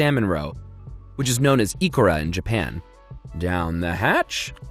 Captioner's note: speaks in foreing language